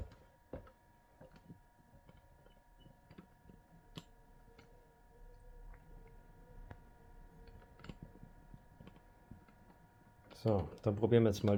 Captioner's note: sounds: Projector alone - “Full Screen” mode